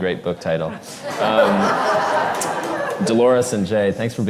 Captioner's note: audience laughs